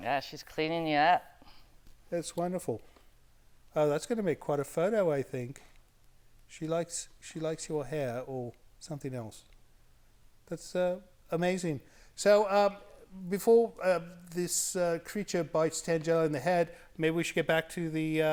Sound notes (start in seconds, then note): none